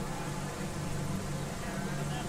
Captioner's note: murmuring